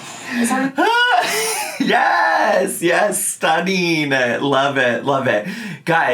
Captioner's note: laughing